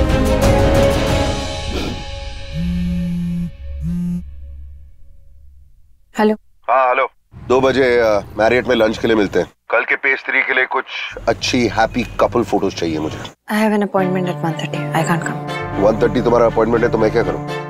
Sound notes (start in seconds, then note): 2.5 Phone buzzing